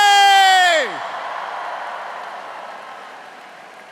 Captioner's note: cheers